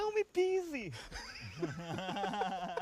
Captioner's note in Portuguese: todos rindo